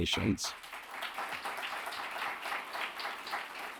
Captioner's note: audience applauds